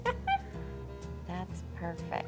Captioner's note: laughs